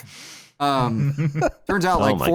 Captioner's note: laughter